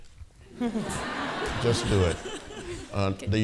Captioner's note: audience laughing